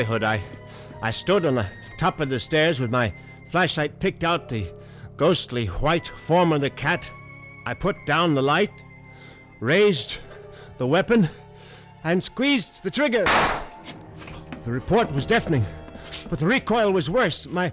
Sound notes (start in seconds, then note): 13.2 gunshot